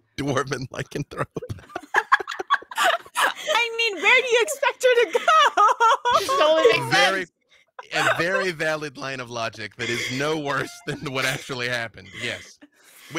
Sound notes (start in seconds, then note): 1.2 laughing; 5.8 laughs